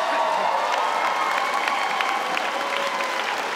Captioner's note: applause